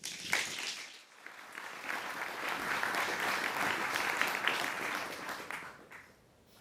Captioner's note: applause